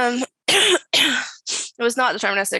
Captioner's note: coughs